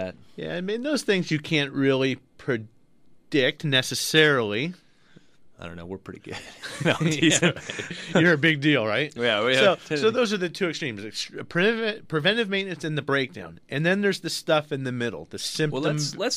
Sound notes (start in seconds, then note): 6.3 both laugh; 9.2 laughs